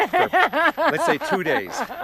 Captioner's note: Connie laughing